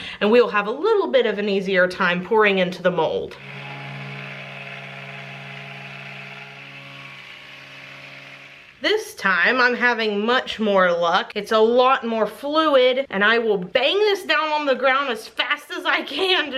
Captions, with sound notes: and we will have a little bit of an easier time pouring into the mold. (blender whirs) This time, I'm having much more luck. It's a lot more fluid, and I will bang this down on the ground as fast as I can,